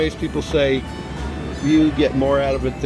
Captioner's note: none